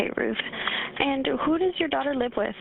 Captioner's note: 911 recording